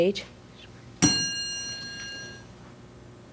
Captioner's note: ding